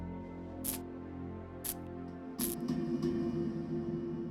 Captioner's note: light flickering